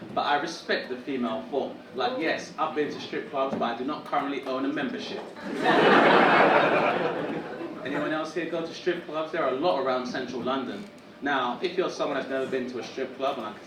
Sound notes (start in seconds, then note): 5.4 audience laughing